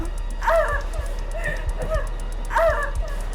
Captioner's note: Sue groans; Tina gasping